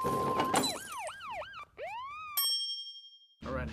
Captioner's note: police sirens